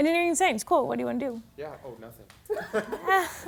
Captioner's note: laughing